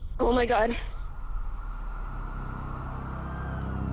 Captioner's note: sirens